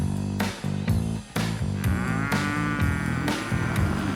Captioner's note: cow moos